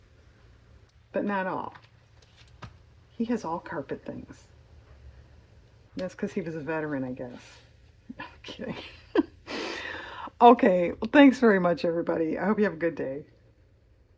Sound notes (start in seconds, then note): 8.2 laughs